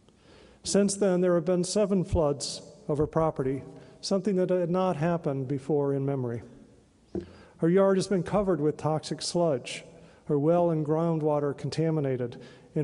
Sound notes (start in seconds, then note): none